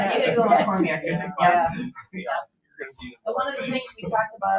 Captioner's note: people chattering